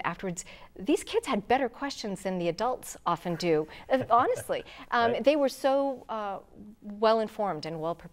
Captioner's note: laughing